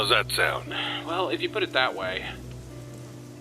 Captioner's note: sigh